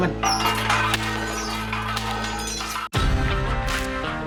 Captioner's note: pounding